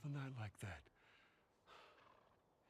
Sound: sigh

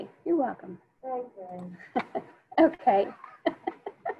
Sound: laughing

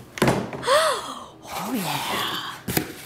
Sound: board thudding; gasps

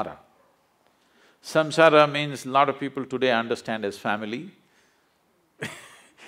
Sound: laughs

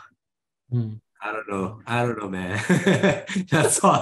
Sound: he chuckles

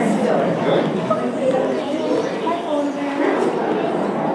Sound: mother, sing-song

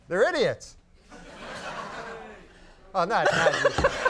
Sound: audience laughs uncomfortably; Conan laughs hysterically

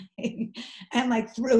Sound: laughs

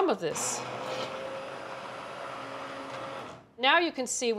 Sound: blender whirling

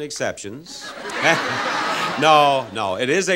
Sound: audience laughs

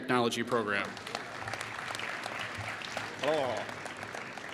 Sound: applause

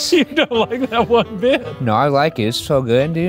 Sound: laughing

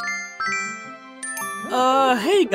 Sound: video game sounds

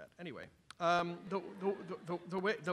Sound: laughter from audience

